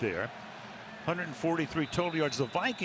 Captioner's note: whistle blows